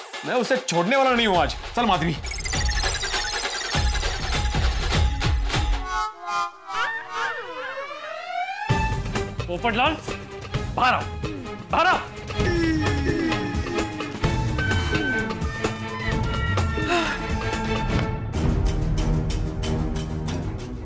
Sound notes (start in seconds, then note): 1.3 tense music plays; 16.7 sighs; 18.4 tense music plays